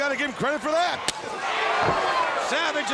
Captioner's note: chest slaps